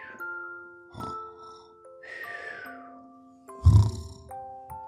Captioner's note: snooring